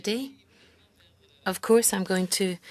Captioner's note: speaking French